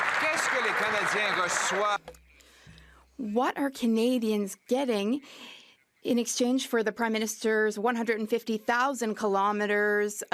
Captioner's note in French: voix de l'interprète